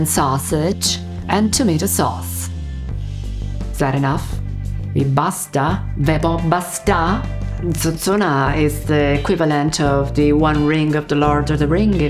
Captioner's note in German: spricht Italienisch